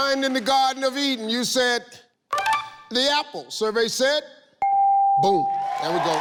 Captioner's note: ding